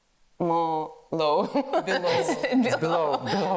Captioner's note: laughs